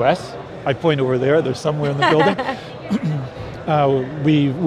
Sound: laughs

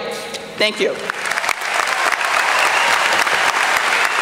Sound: applause

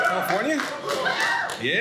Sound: audience cheers

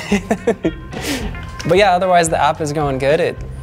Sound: laughing

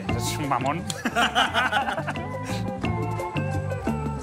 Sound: laughing

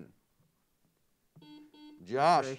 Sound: buzzer sounds

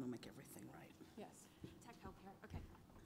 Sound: voiceover

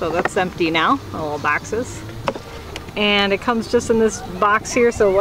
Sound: rattling

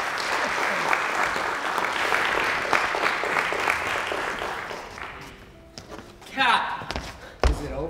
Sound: applause

